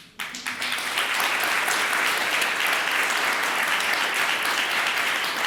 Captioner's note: applause